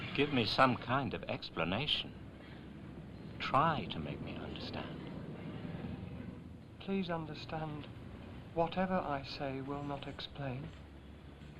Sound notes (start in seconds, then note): none